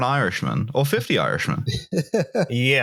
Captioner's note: chuckles